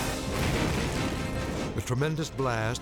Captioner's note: tank explodes